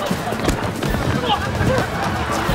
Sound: stumbling

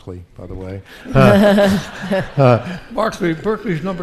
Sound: audience laughing

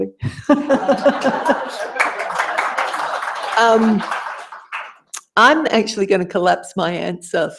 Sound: laugh; applause

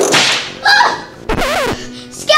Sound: whip cracking; assistant gasping; record scratching

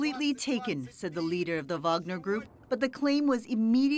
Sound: speaking in alternate language

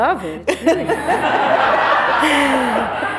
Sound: laughter

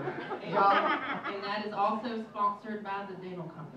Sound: uproarious laughter

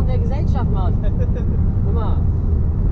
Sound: giggle

